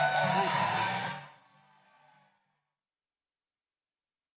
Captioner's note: applause